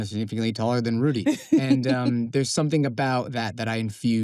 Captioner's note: princess chuckles